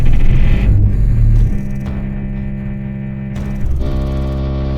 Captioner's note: energy surging